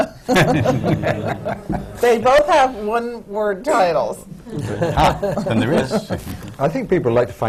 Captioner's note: laughter